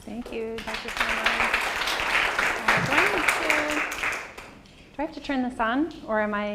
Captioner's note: applause